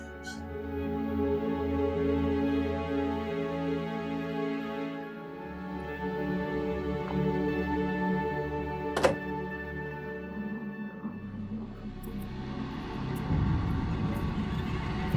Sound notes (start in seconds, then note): 0.1 solemn ambient music; 8.9 door clicks; 11.9 tense ambient music